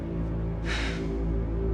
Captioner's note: Tamara sighing